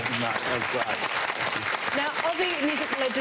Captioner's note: applause